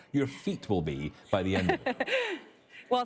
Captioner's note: laughing